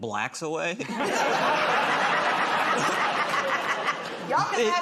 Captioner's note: laughter